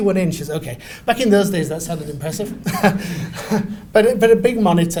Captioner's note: laughs